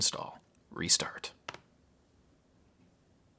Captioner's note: click